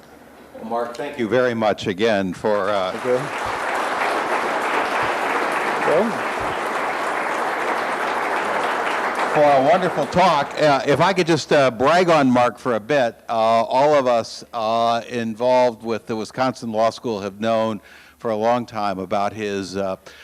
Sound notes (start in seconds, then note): 3.1 audience applauds